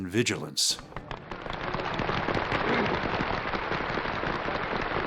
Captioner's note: applause